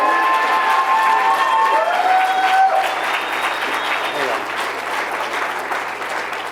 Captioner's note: applause